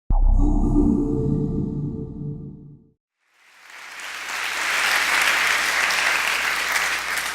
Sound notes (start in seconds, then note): 0.1 electronic bass; 3.3 audience clapping